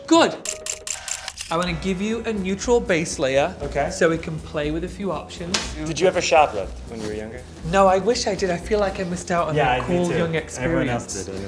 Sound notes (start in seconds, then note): 0.4 camera shudders